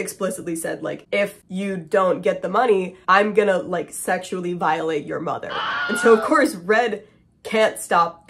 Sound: scream

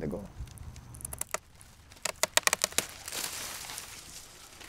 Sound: stem cracking; leaves rustling

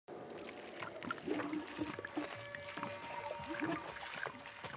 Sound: running water

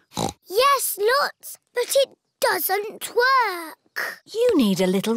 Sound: snorts

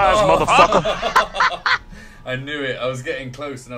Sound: laughs; high-pitched laughter

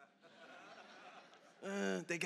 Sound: congregation laughs

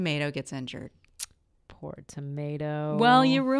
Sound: tsk

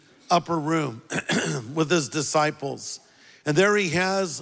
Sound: clears throat

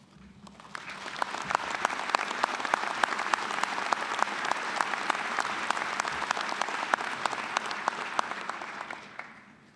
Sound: applause

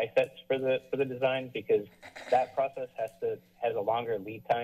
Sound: clears throat

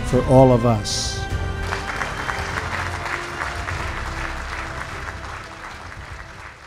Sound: applause

